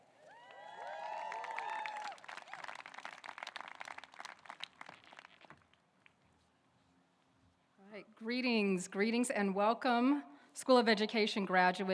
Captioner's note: applause